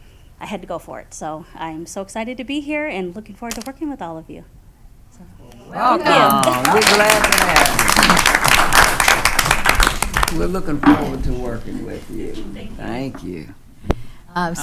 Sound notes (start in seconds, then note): 6.1 attendees applauding